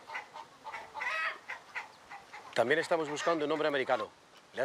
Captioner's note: speaking spanish